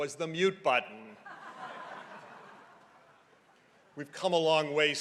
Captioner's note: crowd laughing